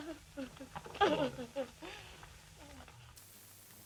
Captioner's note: Corinne whimpers